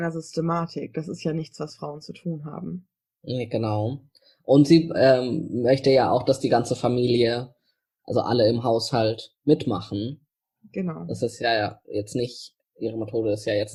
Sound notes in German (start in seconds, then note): 3.0 sarkasmus